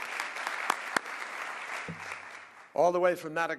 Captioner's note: applause